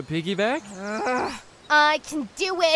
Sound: chuckles; growls

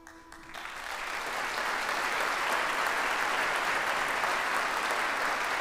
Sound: audience applauds

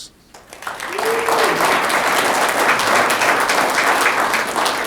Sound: audience clapping

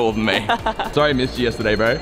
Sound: laughing

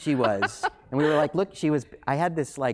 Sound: laughing

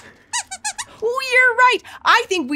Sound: squeaks squeaks

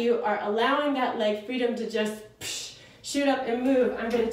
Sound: exhales

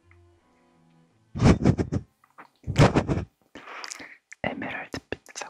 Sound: wind from his nose

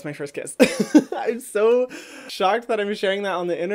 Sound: laughs

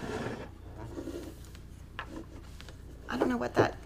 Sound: board scraping

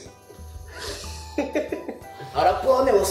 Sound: laughs

